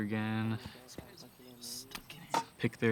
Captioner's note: murmuring